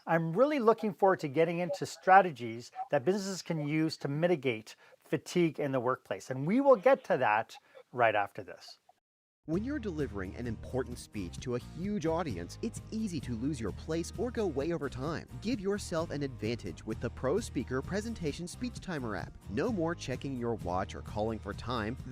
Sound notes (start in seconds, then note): 9.5 voice-over